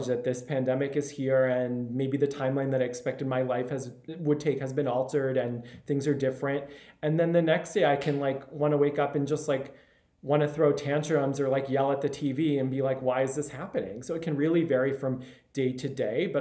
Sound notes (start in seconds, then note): none